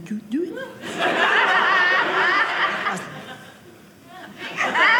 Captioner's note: audience laughing